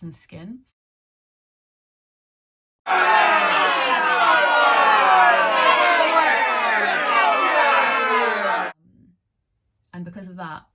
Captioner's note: jeers